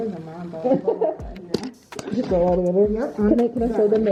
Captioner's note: laughter